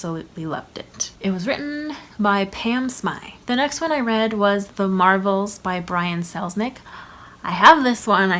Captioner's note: gasp